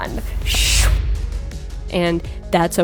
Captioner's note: soft whoosh